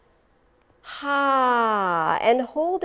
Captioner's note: sighs